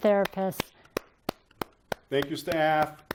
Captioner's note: applause